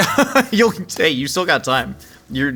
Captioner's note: laughing